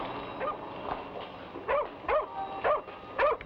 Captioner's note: dog barks